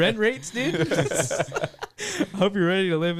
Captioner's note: laughing